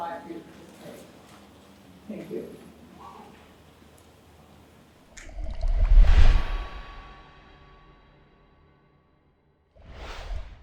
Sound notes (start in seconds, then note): 5.1 water gurgles